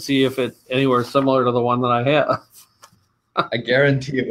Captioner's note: chuckling